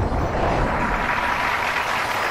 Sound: crowd cheering

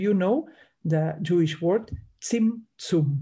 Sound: speaks in Hebrew

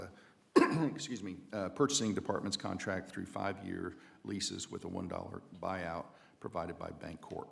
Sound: cough

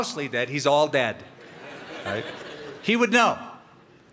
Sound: laughter

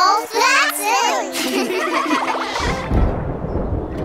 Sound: laughing

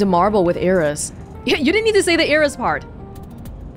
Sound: scoffs

